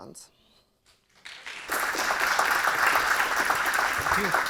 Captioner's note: audience clapping